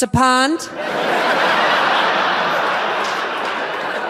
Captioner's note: audience laughs